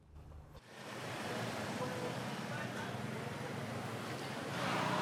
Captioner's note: motorcycle whirring